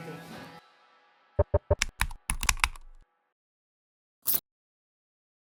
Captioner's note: ident clicks